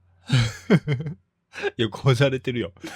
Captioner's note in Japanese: 笑い